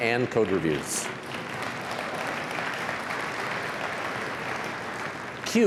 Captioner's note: applause